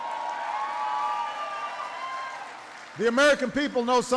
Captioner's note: applause